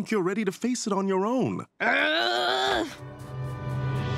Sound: groaning

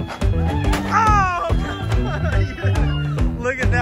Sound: crashes

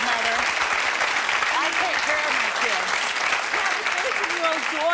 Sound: clapping

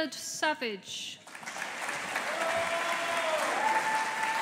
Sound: audience applauding

